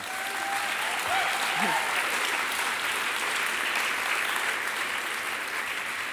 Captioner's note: audience applauding and cheering